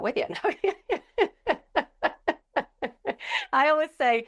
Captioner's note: laughing